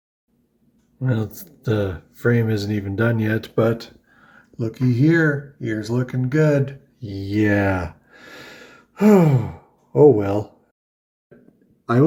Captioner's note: sighs